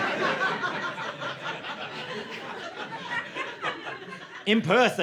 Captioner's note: laughter